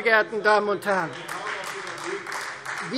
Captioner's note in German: Beifall Freie Demokraten